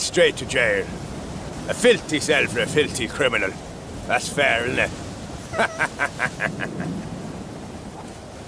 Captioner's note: evil laugh